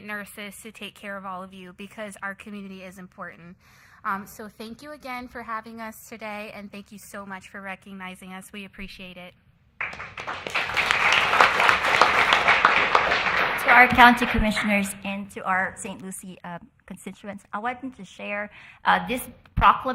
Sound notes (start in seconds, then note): 12.0 applause